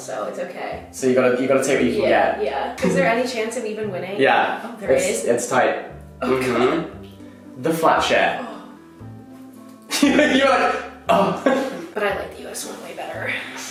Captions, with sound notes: so it's okay. - So you gotta take what you can get. - Yeah. Yeah. Is there any chance of even winning? - Yeah. - Oh, there is? - It's tight. Mmhm. - Oh God. - The Flat Share. - Oh. - (laughs) You were like, "Oh!" - But I like the US one way better.